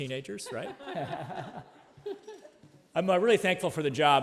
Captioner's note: laughing